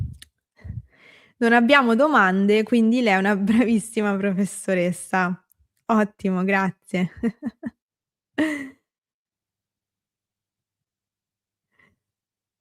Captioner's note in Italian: risate